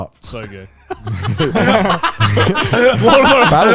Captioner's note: everyone laughs